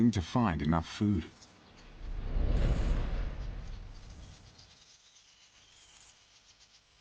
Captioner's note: birds chirping; dramatic music